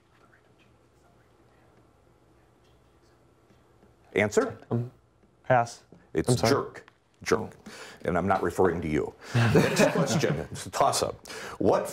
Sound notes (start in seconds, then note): 1.4 whispering; 9.3 laughter